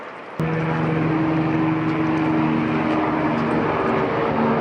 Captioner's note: wind whistles